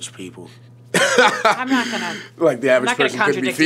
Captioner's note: laughs